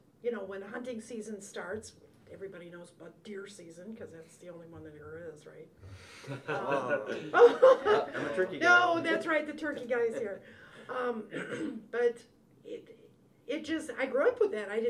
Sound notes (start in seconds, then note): 5.9 laughs